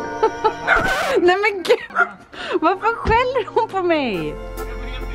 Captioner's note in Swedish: record scratch; Ronja skäller